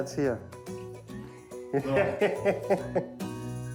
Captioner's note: laughs